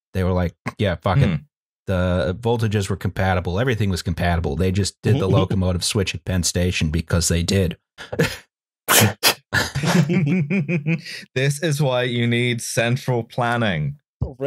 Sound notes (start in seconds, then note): 9.5 light laughter